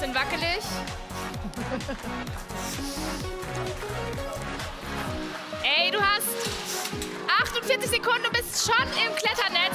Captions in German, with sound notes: Jetzt wird's ein bisschen wackelig. (Lachen) Ey, du hast ... 48 Sekunden, du bist schon im Kletternetz.